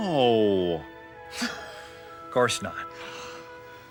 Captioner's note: scoffs